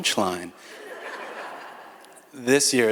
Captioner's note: audience laughs